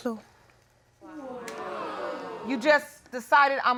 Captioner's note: audience jeers